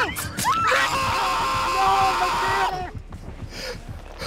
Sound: screaming

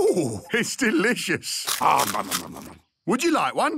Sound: crunching

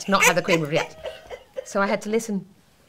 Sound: laughing

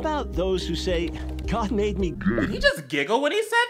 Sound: distorted voice

